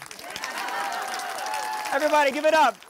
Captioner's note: crowd applauding